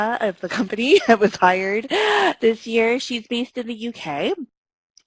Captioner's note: laughs